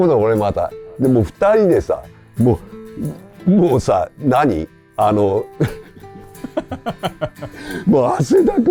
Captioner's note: laughs